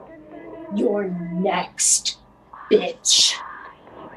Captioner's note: voice is different than usual, harsh, menacing, evil